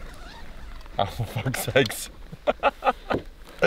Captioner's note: laughter